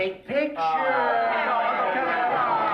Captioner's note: yelling